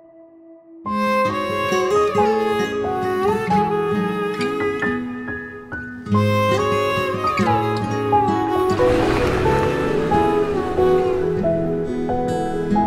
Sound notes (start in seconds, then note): 0.9 melancholic music; 8.7 car engine